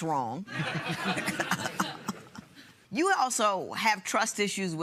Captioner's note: chuckles